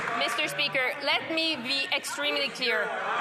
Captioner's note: some Applause